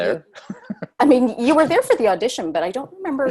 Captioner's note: laugh